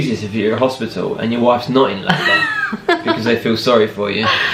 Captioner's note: laughing